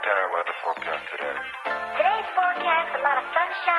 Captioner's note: voiceover